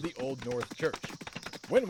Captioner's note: horses gallop